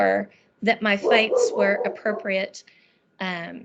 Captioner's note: barking sounds